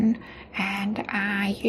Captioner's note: none